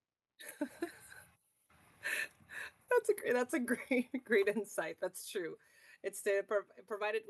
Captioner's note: laughs